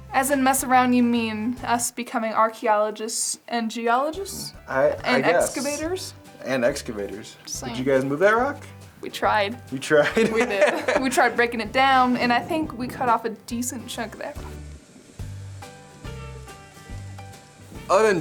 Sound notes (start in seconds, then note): 10.0 laughs; 15.6 country music